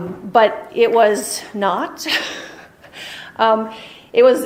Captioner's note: chuckles